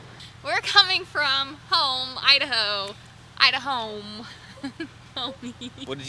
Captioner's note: giggles